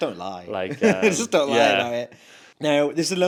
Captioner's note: both laughs